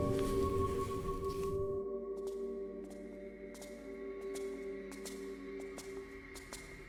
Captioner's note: suspenseful music; footsteps tapping